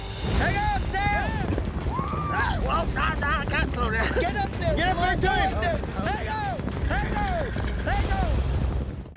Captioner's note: cowboys shouting